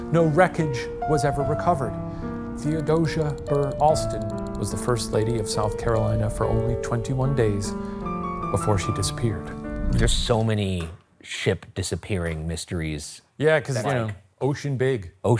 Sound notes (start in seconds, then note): 2.8 text clicking; 9.8 screen whooshing